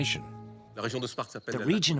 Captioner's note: speaking in foreign language